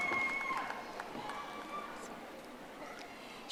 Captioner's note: audience applauding